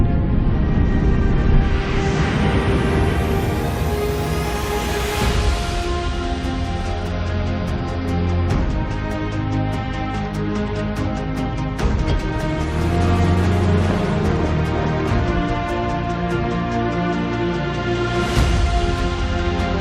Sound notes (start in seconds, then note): 2.0 dramatic music playing; 5.2 jet engine rumbling